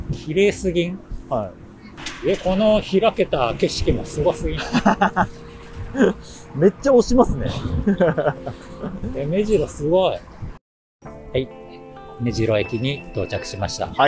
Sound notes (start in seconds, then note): 4.5 laughs